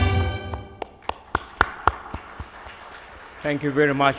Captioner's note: audience applauds